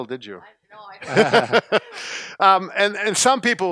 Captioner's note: laughing